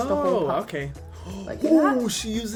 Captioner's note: gasps